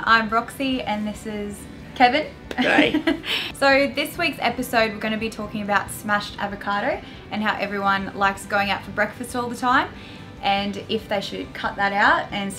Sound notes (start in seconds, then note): 2.6 laughs